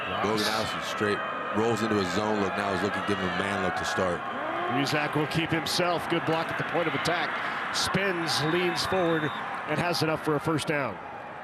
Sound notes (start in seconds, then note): 8.2 referee blows whistle